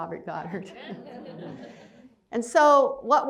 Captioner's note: laughter